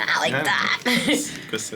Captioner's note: chuckles